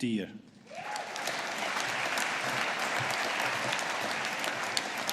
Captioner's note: audience applauding